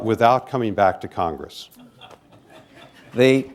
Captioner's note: laughter